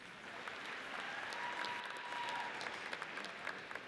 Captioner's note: audience cheers